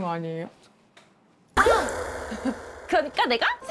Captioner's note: 'Forgot again' sound effect